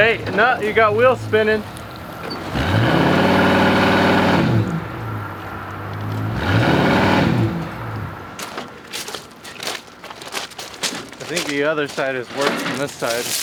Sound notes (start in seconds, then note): 2.6 engine revving